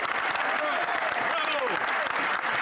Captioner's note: speaking French